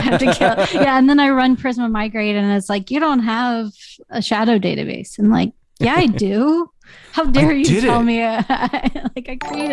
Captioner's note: laughter